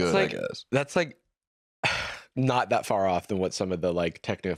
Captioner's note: sighs